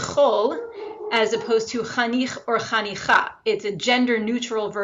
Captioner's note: speaks foreign language